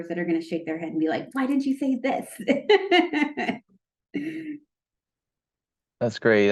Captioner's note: laughs